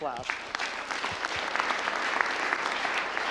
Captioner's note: applause